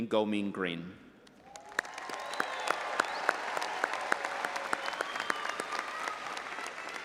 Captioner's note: all applauding and audience cheering